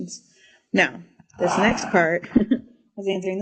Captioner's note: chuckles